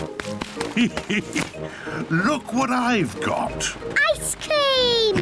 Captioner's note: laughs